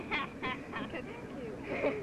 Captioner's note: girl laughing